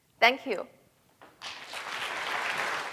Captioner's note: applause